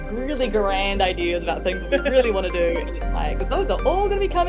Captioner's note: Ruby chuckles